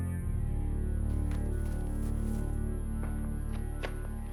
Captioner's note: footsteps pattering